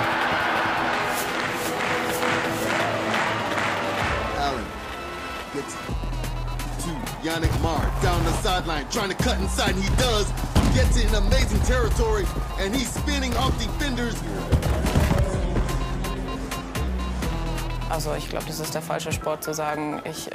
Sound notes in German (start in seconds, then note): 0.0 Rhythmisches Klatschen; 14.1 Dumpfe Geräusche; 15.4 Angespannte Musik